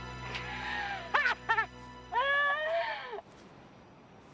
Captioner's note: Taryn laughing